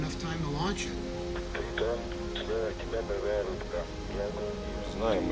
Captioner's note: man speaking in foreign language